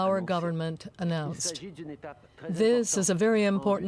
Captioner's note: speaking French